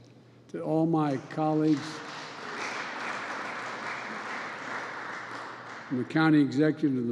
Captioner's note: applause